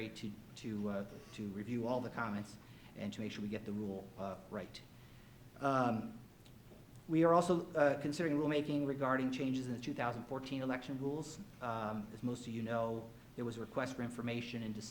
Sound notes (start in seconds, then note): none